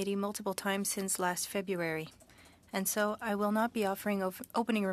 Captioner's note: speaking French